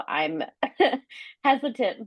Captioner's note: laughing